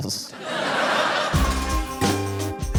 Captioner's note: laughter